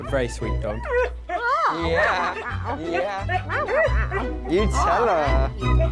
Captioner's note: Kylo whining